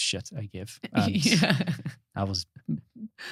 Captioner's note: laughing